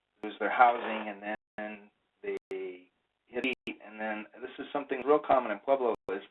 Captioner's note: static interruption